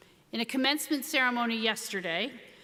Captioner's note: none